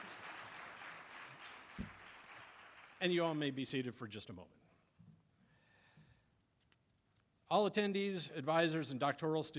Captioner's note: applause